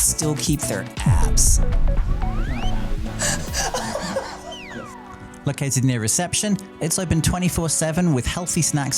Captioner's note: now laughing at his own joke